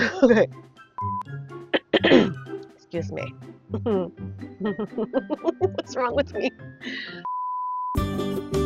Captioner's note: clears throat